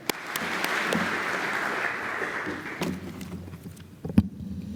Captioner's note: applause